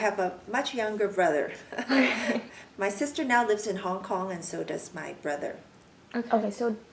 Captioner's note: laugh